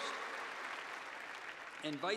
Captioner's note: applause